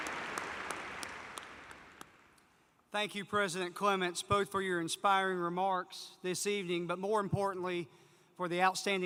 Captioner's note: applause